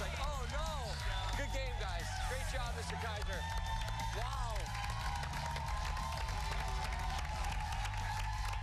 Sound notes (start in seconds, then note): 3.2 cheers and applause